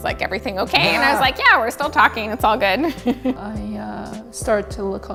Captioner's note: laughs